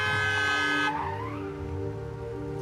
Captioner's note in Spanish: Claxon